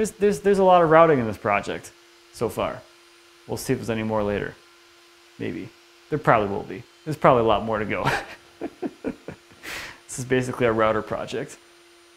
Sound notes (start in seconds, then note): 8.0 laughs